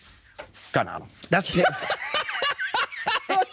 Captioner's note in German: beide Lachen